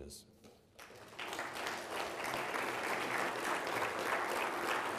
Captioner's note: people applauding